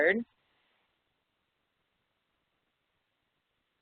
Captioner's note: silence